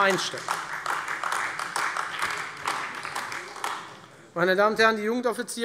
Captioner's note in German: Beifall Freie Demokraten, vereinzelt CDU und AfD